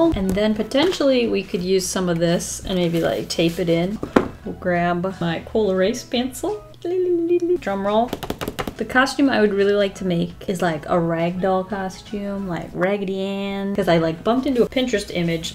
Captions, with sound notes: and then potentially we could use some of this and maybe like tape it in. We'll grab my col-erase pencil. Drum roll. [Drums fingers] The costume I would really like to make is like, a ragdoll costume, like Raggedy Ann, 'cause I like bumped into a Pinterest image